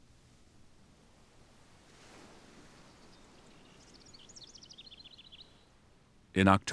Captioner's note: birds chirping